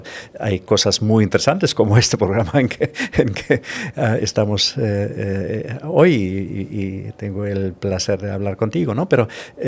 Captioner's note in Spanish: risas